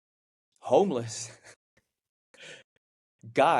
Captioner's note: chuckles